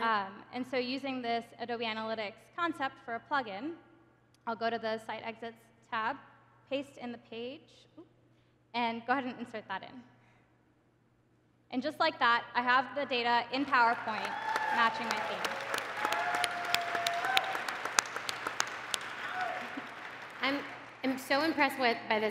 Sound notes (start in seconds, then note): 16.0 cheering, applause